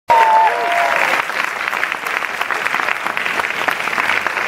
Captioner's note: audience applauds